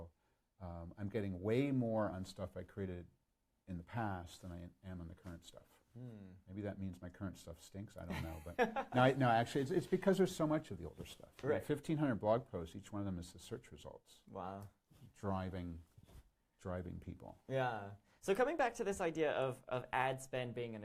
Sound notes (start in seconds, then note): 8.8 laughs